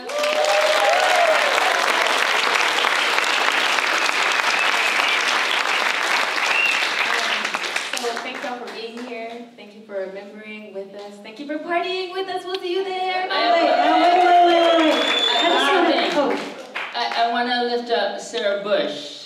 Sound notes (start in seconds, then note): 0.0 applause; 13.2 audience cheers